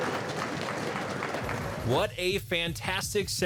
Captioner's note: audience applauding; upbeat music